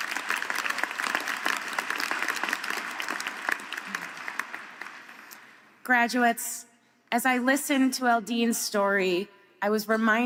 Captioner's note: applause